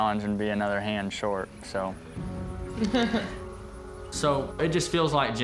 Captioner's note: chuckling